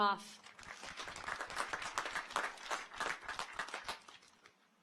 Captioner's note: audience applauds